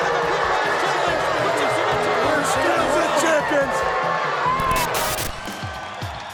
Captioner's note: people chattering indistinctly; upbeat music